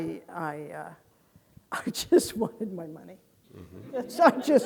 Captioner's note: laughs